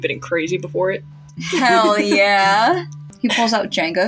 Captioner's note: laugh